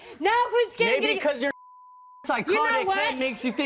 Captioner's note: beep